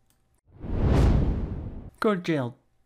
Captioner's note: whooshing